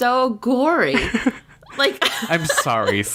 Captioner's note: laughs